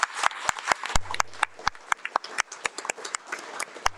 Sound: audience applauds

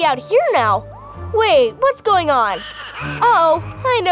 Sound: ominous laughter

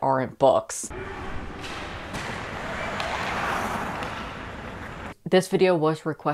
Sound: skates clashing against ice

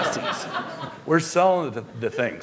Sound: laughter

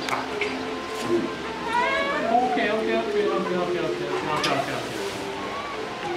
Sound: baby crying

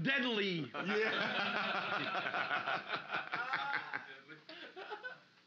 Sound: loudly laughing

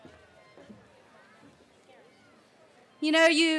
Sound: cheering

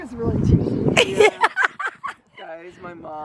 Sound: laughing

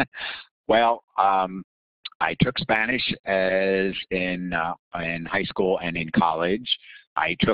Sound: laughing

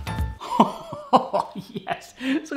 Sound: laughs

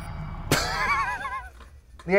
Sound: laughs

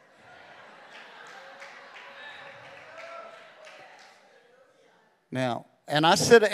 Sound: congregation cheering

